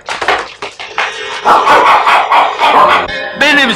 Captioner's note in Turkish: Köpek havlamaları